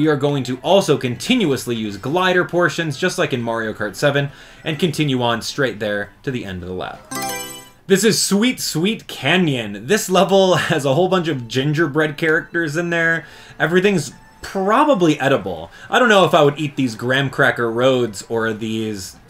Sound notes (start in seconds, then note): 7.0 Mario Selection Sound